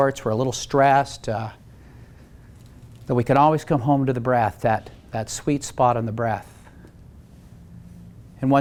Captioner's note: none